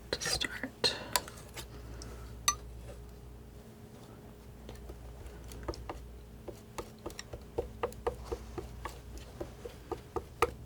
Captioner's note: tapping